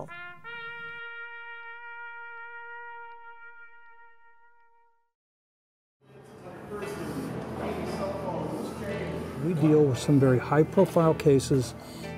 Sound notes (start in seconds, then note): 0.2 taps music; 6.4 crowd chattering